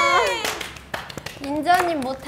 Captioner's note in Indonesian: Tepuk tangan